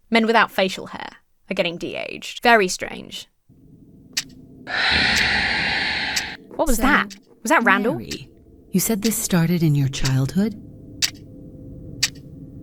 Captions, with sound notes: Men without facial hair are getting de-aged. Very strange. (clock ticks) (monster hisses) What was that? - So, Mary. - Was that Randall? - You said this started in your childhood? (clock ticks)